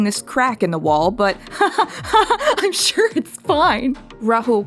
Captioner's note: nervous laughter